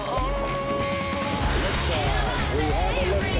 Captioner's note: rocket engine roars